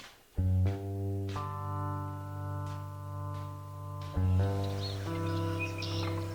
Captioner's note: tranquil music; birds chirping